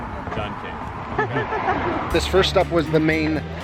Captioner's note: laughing